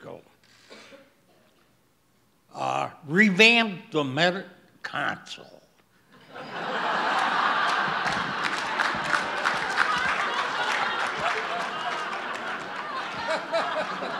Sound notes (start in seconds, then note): 6.2 audience laughs